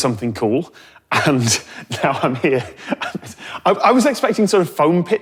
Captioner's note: chuckles